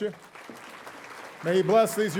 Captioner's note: audience applauding